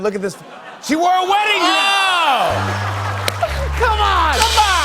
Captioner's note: laughter and applause